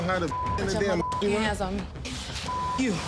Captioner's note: beep